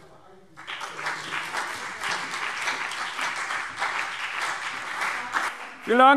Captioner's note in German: Beifall CDU und BÜNDNIS 90/DIE GRÜNEN